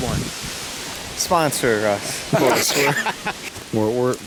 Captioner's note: laughing